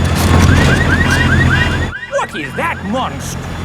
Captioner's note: car alarms blaring